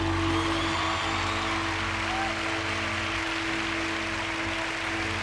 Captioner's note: cheering